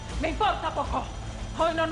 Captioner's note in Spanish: Habla en otro idioma